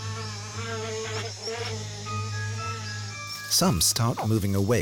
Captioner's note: insects buzzing